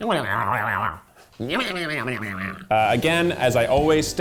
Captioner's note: humming